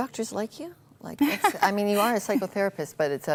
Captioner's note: laughter